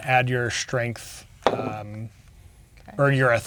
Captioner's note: dice rolling